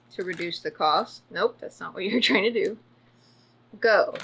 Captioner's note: laughs